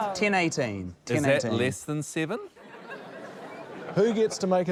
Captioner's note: laughter